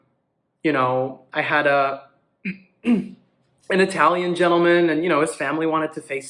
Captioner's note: throat clear